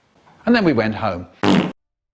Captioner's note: fart